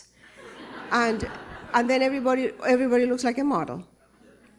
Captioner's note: laughter